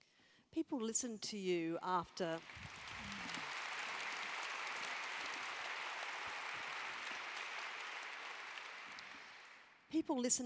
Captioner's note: applause